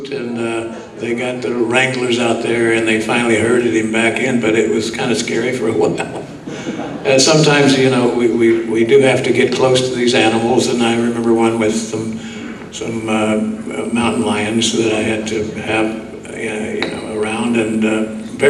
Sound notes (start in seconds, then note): 5.8 laughs